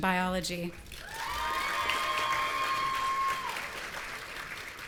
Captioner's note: audience cheering